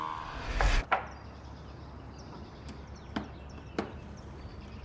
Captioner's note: birds chirping